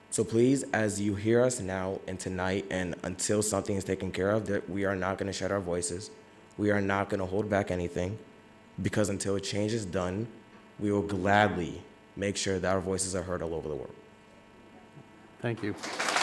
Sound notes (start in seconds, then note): 15.5 audience murmurs